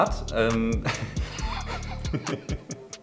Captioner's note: both laughing